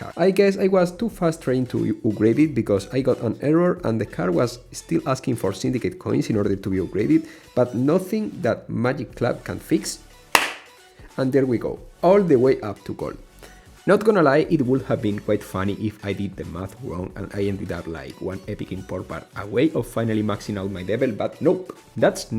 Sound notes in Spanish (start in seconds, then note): 10.3 aplauso caro